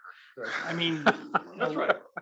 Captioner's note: laugh